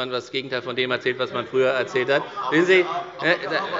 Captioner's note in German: Zurufe von der CDU und dem BÜNDNIS 90/DIE GRÜNEN